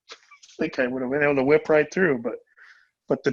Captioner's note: speaking faintly